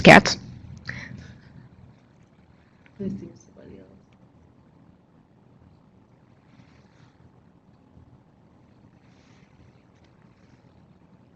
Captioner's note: long silence, typing